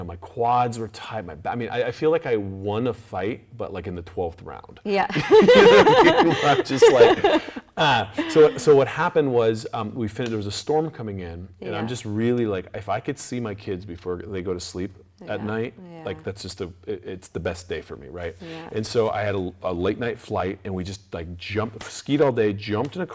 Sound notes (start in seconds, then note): 5.1 laughing